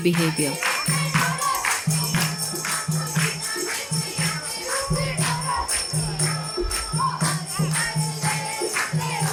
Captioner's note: applausing; bell jingling; singing in chorus